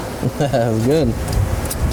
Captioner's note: laughing